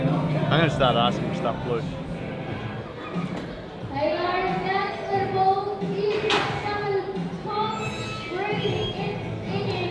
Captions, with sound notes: I'm gonna start asking for stuff blue. (callers voice muffled by background noise)